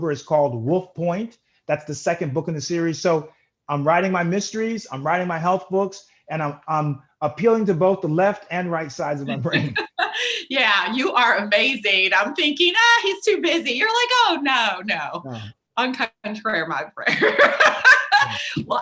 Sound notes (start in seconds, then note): 9.2 laughs; 17.1 laughs